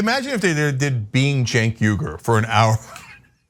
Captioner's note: laugh